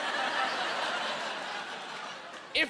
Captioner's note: laughing